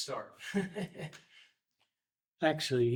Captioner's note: laughs